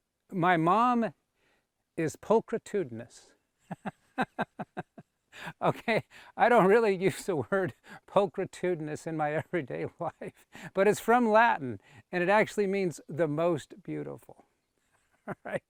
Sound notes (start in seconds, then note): 4.1 laughs; 10.3 laughing; 15.2 chuckles